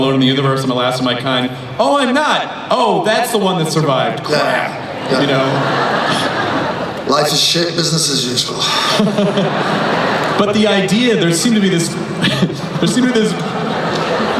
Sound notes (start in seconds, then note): 10.6 voiceover; 14.2 laughing